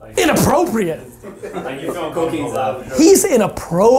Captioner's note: laughing